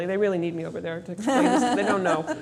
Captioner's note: laughs